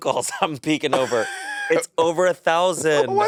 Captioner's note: Monét laughing